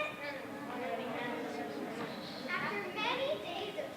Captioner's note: crew murmuring